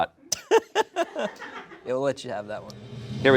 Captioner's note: laughs